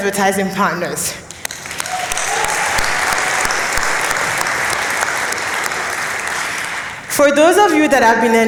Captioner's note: applause